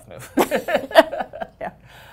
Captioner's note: laughter